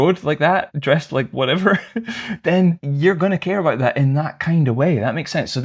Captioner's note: laughter